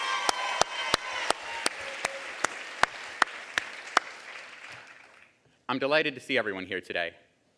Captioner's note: applause